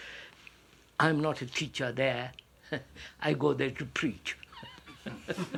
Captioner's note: laughs